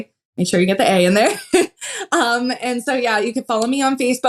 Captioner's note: laugh